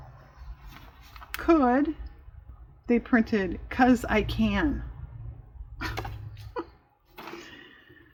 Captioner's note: laughs